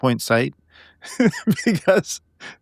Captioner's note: laughing